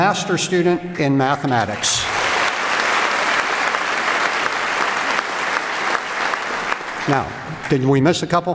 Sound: applause

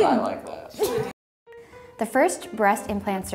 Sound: laughing

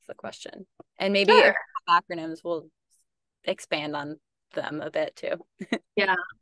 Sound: chuckles

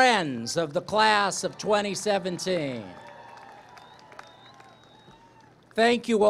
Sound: applause, cheering

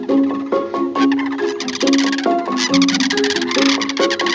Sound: cranes calling

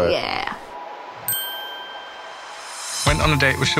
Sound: dinging

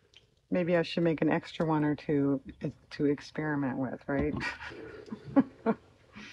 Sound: laughs

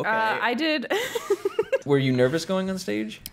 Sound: laughter

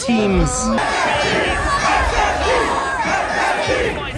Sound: crowd

